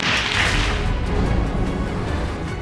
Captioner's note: audience applauds